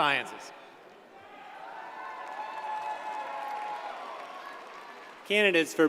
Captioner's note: audience cheers and applauds